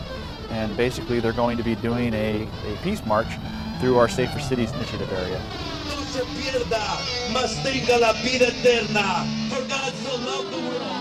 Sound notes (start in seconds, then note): 5.8 preacher speaking in foreign language; 7.7 exciting rock music